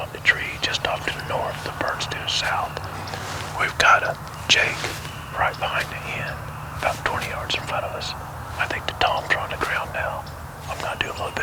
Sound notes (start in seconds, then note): 0.0 whispering; 3.3 whispering